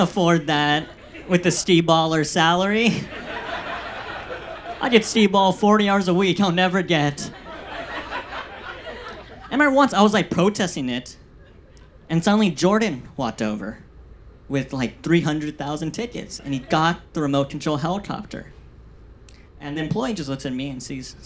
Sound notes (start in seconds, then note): 2.7 audience laughs; 7.0 audience laughs